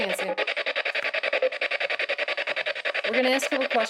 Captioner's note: machine buzzes